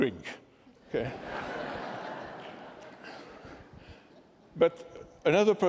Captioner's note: laughter